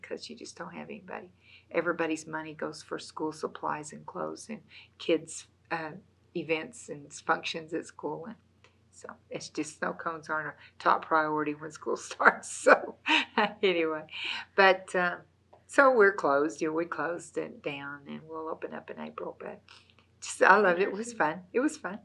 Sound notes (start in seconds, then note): 13.0 laughs